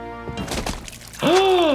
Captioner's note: blood splashing; solemn flute music; gasping